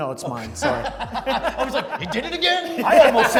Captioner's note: laughs